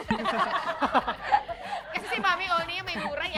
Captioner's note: laughter